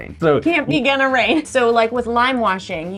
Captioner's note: laughs